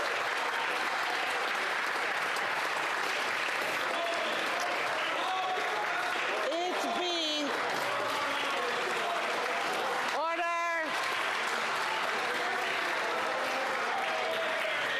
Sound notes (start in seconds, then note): 0.0 cheering and Applause; 2.4 applause